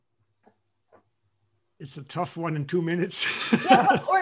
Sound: laughter

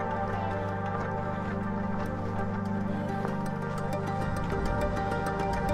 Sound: footsteps crunching

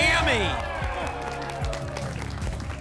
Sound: applause and cheering

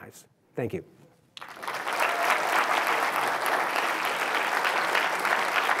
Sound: applause

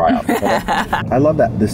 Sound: laughter

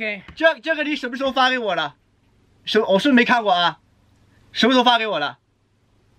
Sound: speaks chinese

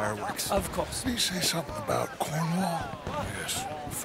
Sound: whispers to Arthur

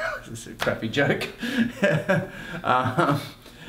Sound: laughing; laughs

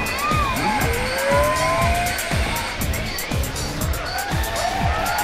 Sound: buzzer ringing

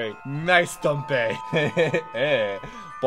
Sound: laughs

